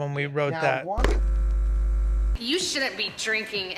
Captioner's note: VCR buzz